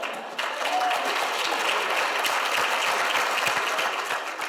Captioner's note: audience applauds